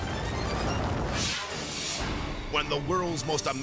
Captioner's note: graphics booming